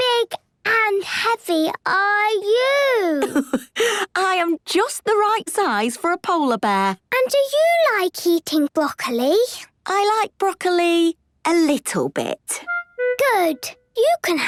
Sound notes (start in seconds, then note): 4.4 laughs